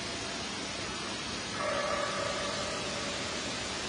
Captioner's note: eerie barking